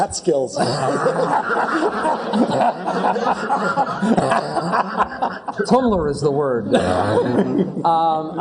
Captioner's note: laugh